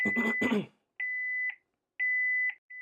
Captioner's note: beeping